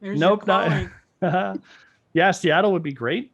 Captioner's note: giggles